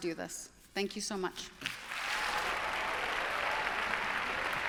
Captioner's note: applause